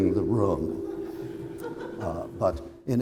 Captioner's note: laughter